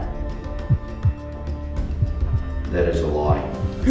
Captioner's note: heartbeat